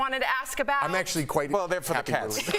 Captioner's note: laughter